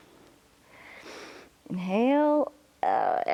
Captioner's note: inhales